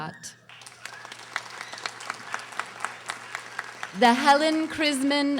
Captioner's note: audience applauding